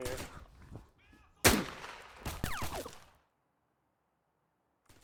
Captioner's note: gunshots fire